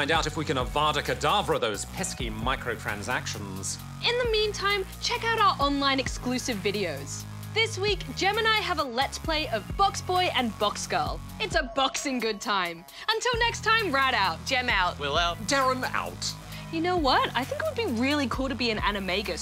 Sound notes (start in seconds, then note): none